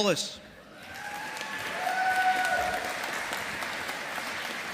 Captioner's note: audience applauding